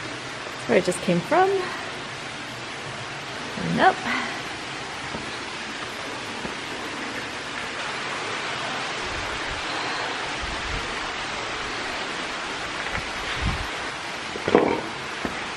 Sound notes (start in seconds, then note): 4.4 water running; 14.0 metal scraping; 14.0 water running